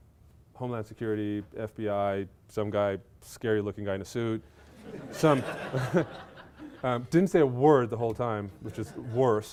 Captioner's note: laughter